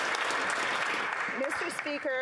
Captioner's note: applause